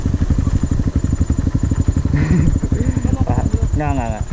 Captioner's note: anxious laughter